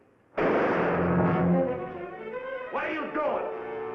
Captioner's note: gunshot bangs